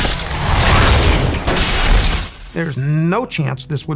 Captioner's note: rocket blasting; glass shattering